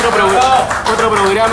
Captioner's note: applause